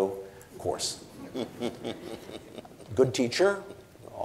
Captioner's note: audience and Cornel chuckle